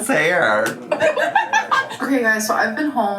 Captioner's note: laughing